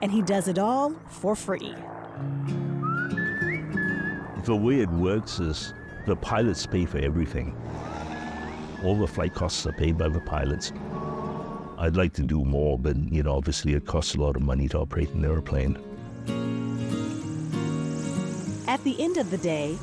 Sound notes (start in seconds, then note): 2.8 cheerful whistling